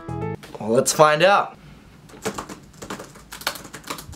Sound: typing

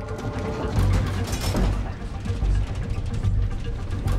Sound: seatbelt clicks; plane shaking

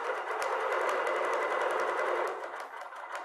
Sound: sewing machine whirring

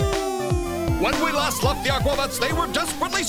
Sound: narrator Voice

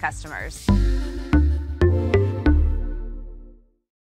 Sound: tones play

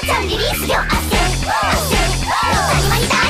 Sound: whoop

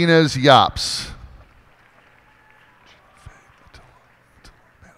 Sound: cheers and applause

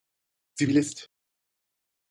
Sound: fast Pronunciation

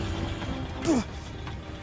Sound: grunts

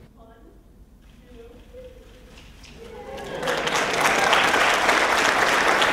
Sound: cheering and applause

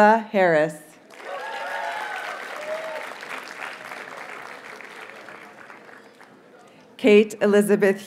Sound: audience cheers and applauds

